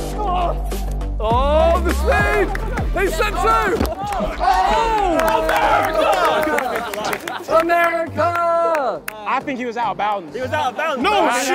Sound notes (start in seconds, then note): 0.1 contestant grunting; 4.6 clapping and yelling; 6.7 contestants clapping